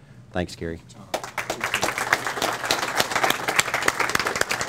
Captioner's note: audience applauds